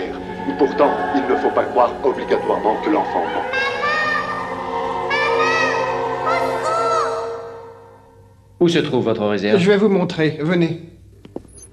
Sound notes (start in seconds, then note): 5.2 children shouting